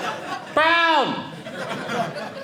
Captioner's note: audience laughing